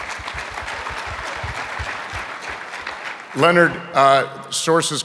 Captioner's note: audience applauding